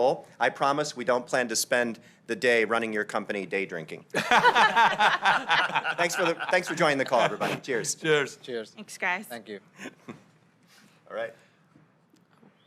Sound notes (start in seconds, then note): 4.1 laughter